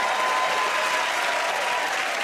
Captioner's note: cheers and applause